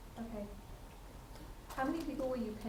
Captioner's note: attendee Through Translator